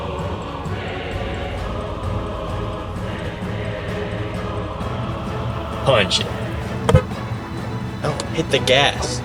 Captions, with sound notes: Punch it. (horn honks) No, hit the gas!